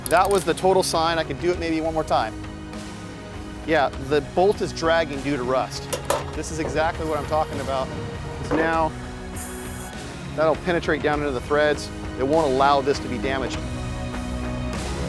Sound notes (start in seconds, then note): 9.3 spray can hissing